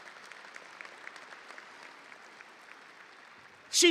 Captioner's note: audience applauding